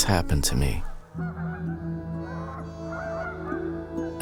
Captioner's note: geese honking